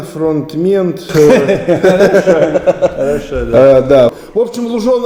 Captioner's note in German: lachen über ihren unglaublich lustigen Witz